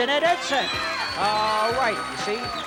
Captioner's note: screams